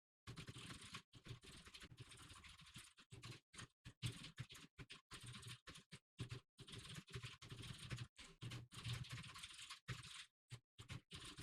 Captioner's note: typing sounds